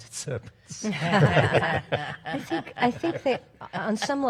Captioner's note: panel laughs